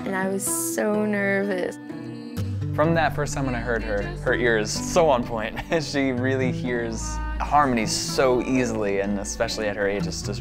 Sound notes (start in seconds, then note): 5.6 laughs